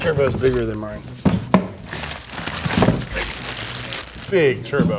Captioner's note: thumping on table; plastic crinkling